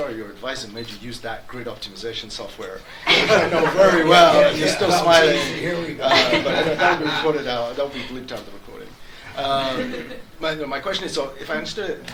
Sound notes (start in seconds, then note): 2.9 audience laughs